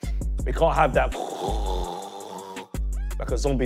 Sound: snoring

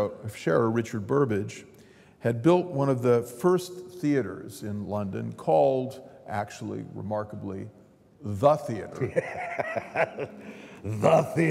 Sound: laughter

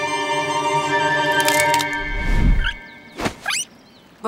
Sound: squeaking

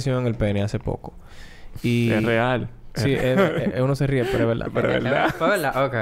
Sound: laughs

